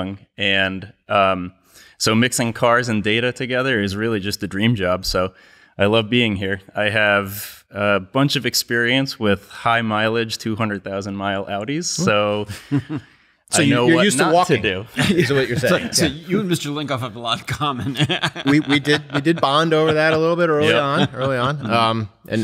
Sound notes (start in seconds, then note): 17.7 laughs